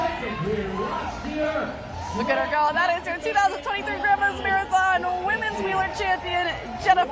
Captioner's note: cheers and applause